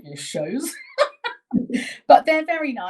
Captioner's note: both laughing